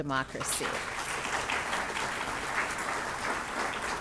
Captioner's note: audience clapping